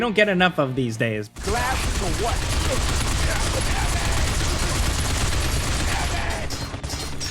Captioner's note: gun fires